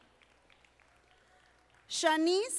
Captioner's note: audience applauding